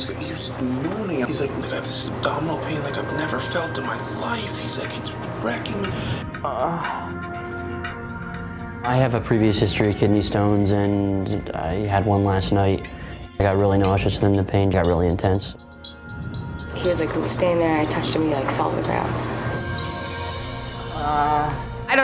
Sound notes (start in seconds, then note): 7.0 moaning